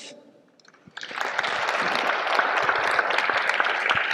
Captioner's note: audience applause